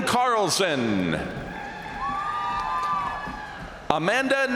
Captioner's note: crowd cheering; crowd applauding